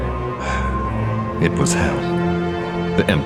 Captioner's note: sighs